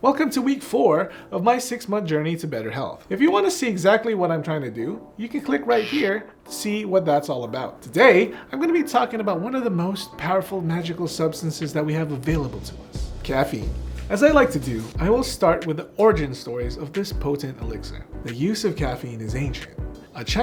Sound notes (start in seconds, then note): 6.1 electricity buzzing